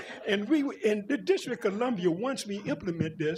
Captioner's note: laughter